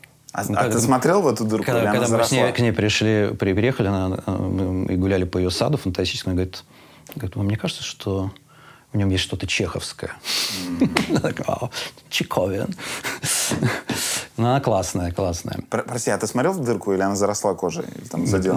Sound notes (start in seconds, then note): 10.6 chuckles; 13.8 laughs